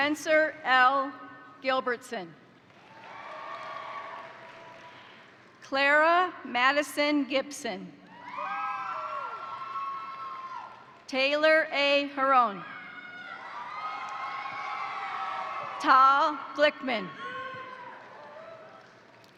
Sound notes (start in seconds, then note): 2.7 crowd applauding; 2.8 crowd cheering; 8.1 crowd cheering; 8.2 crowd applauding; 12.6 crowd cheering; 13.5 crowd applauding; 17.2 crowd applauding; 18.5 crowd cheering